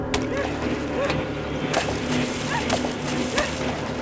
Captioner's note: splashing water